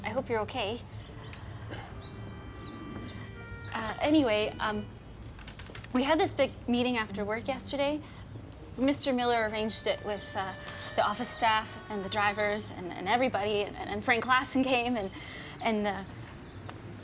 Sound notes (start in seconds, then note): 0.8 birds chirping